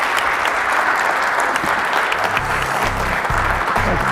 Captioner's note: applause